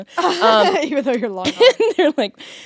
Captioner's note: laughing